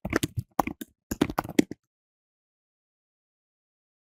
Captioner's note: keyboard typing